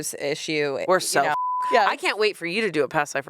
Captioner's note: beep